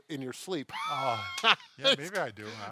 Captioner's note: laughter